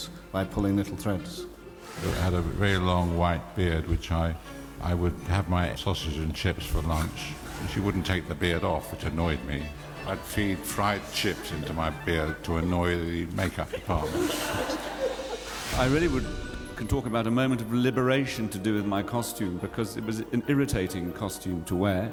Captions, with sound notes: ...by pulling little threads. I had a really long white beard, which I would have my sausage and chips for lunch. And she wouldn't take the beard off, which annoyed me. I'd feed fried chips into my beard to annoy the Makeup Department. [AUDIENCE CHUCKLES] I really would-- Can talk about a moment of liberation to do with my costume... ...because it was an irritating costume to wear.